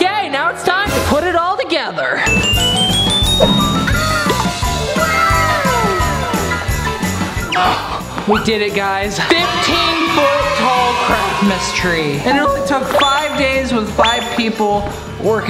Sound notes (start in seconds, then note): 2.2 whimsical music; 9.2 kids cheering